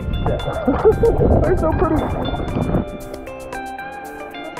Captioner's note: chuckling; gentle music